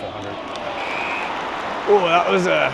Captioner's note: crowd applauding